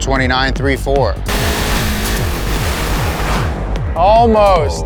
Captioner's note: engine rattling